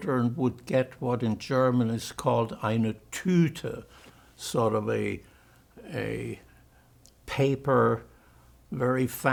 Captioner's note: german